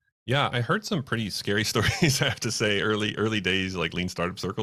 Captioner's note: laughs